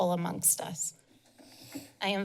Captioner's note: pause